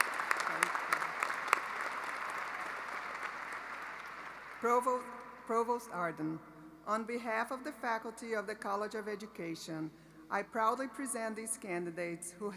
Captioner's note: alause